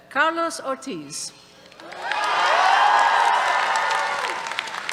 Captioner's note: cheers